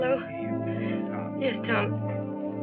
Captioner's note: on phone